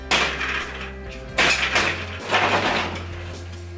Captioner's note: metal banging